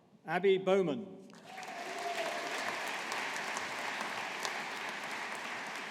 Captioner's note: audience applauding